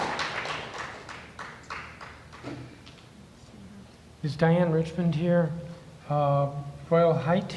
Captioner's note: applause